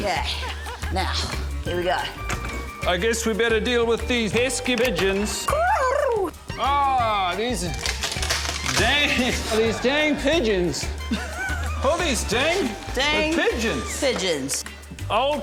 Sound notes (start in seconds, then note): 5.6 mimics bird cooing; 7.8 crack!; 9.4 laughs